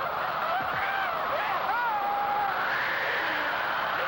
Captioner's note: crying